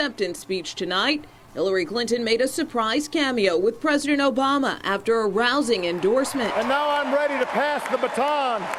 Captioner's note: applause